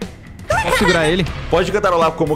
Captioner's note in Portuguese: Risos